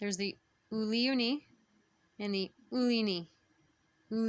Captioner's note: speaking Abenaki